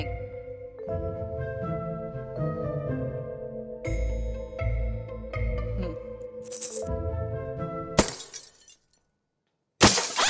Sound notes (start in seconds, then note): 6.4 rattling coins; 7.9 porcelain smashing